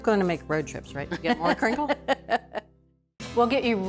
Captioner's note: Julia chuckling